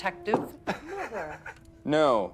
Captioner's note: Johnny laughing